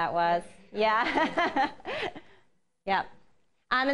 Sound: laughter

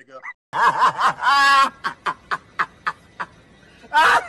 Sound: man laughing dryly

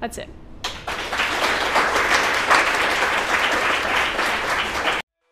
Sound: audience clapping

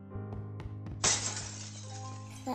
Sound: crash

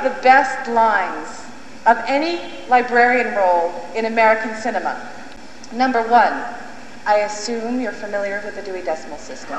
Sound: in a haughty tone

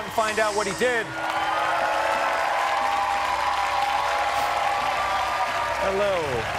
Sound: cheers and applause

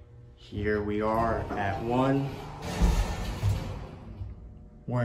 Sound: door Opens

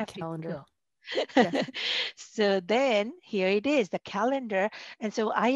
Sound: laughter

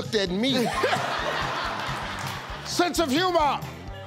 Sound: audience laughing

